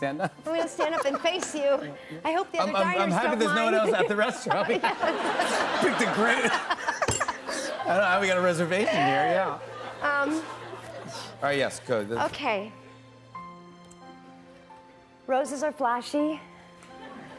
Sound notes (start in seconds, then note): 7.2 laughter; 12.6 soft music plays